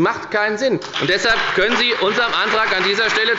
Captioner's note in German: Beifall bei der FDP und der SPD